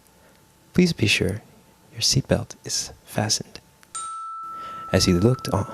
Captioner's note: chime!